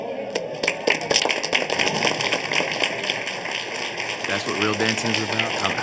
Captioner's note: group clapping